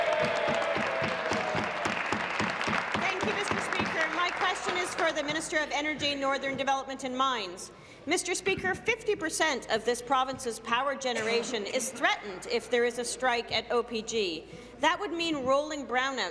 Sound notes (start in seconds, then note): 0.0 applause; 2.5 cheers